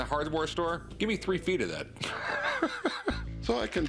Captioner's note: laughs